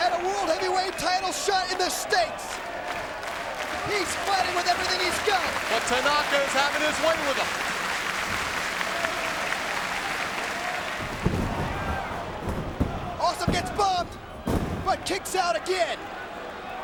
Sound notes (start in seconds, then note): 2.6 crowd clapping; 7.5 crowd clapping continues; 12.8 hand pounding